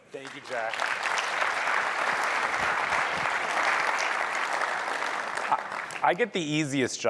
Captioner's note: applause